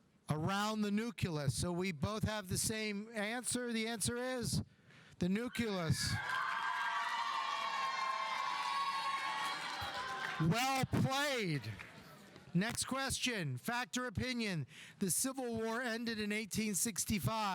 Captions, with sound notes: around the nucleus, so we both have the same answer. The answer is the nucleus. (audience applauding) (audience cheering) Well played. Next question. Fact or opinion? The Civil War ended in 1865.